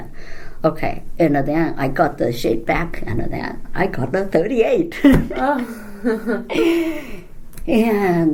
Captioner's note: laugh, groans